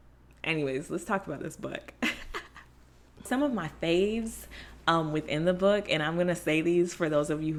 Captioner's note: laughs